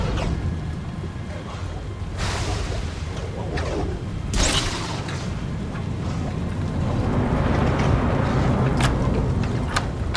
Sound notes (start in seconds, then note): 2.6 thunder, Lightning, wind whipping outside